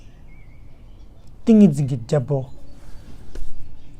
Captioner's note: tibetan